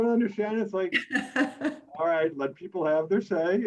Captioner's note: laughs